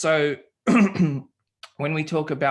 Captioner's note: clearing throat